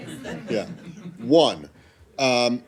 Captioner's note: laughter